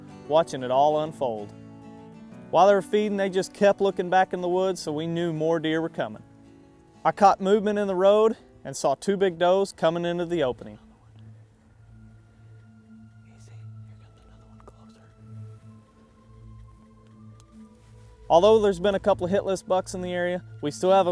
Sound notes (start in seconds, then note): 12.2 whispering